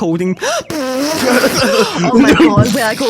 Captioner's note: loudly shidding